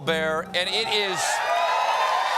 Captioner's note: cheers and applause